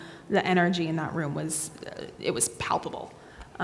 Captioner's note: none